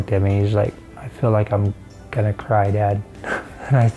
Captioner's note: chuckles